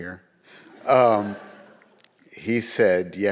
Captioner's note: audience laughs